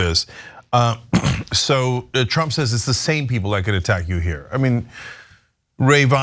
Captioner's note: cough